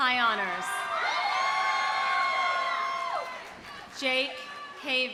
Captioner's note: audience cheering; audience applauding